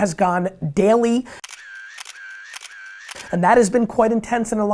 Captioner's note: camera snapping